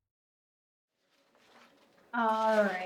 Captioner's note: papers rustling